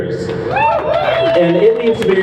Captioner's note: crowd cheers